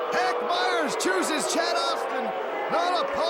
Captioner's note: crowd cheering